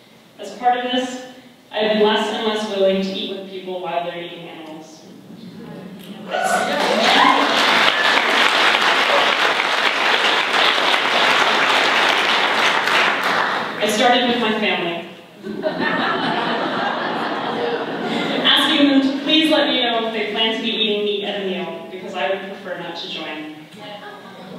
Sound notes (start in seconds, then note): 6.4 applause; 15.4 laughter